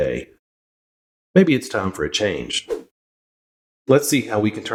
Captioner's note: woosh